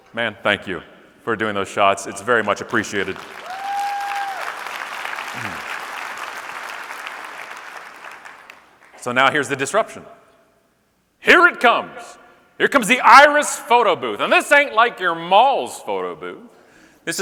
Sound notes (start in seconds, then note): 3.0 audience cheering and clapping